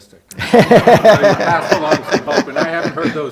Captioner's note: laughs